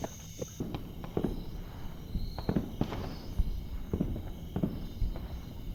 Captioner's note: distant sounds of war